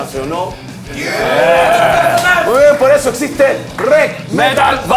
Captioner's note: screams